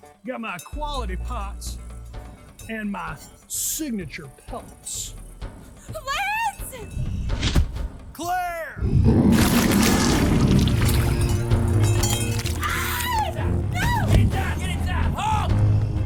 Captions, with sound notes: Got my quality pots... and my signature pelts. Lance! Clare! [Loud chomp, blood gushing] [Scream] - No! - Get inside! Get inside! Hawk!